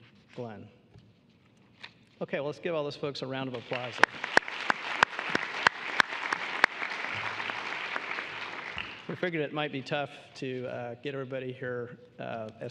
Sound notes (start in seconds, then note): 3.5 applause